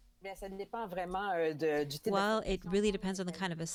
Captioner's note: speaking French